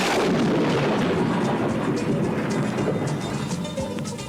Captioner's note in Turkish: gök gürler